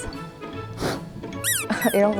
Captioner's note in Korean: 후우